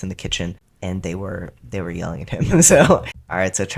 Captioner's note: laugh